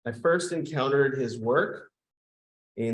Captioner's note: none